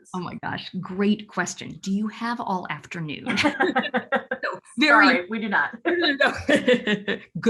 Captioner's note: laughs